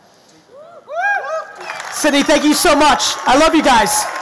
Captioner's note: audience cheering